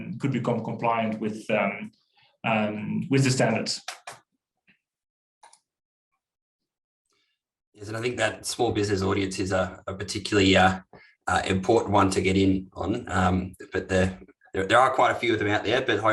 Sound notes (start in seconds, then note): 4.0 keyboard keystrokes; 5.4 clicks